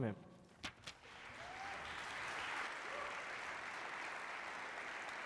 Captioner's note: applause